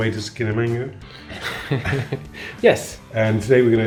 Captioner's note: laughs